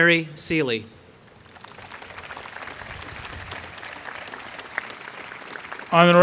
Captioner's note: applause